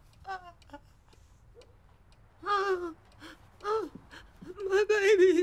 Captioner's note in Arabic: دقات الساعة